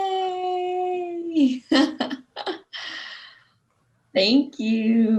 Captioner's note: laughs